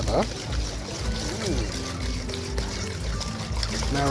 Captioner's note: whisk scraping